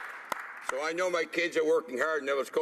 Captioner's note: applause